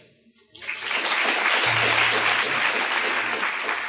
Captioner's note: students claps